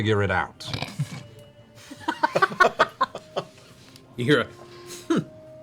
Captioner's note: laughter